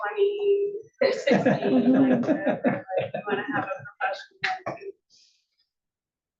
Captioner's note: laugh